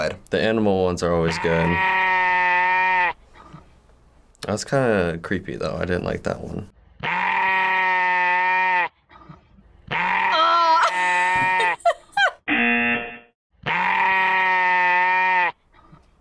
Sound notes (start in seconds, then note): 10.3 laughs; 12.5 buzzer